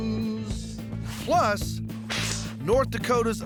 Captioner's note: both spitting